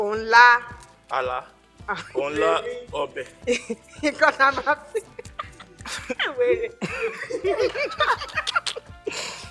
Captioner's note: everyone laughs